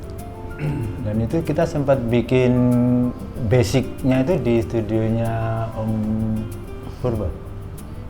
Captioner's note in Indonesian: berdehem